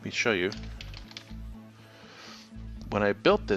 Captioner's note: keyboard crackling